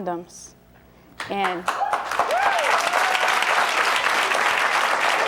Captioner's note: audience cheering